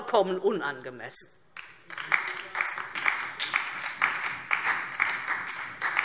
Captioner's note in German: Beifall DIE LINKE und vereinzelt SPD